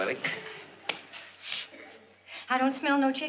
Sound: sniffs

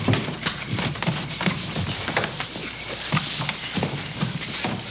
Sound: men scuffling

